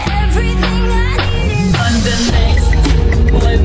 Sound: +riser; riser

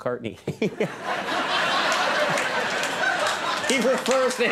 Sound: audience laughs

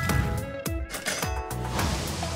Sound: signal clangs

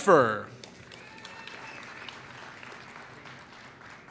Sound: applause

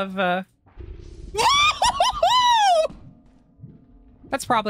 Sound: screams; bubbling sounds

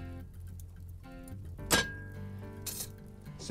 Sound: cask iron clanks

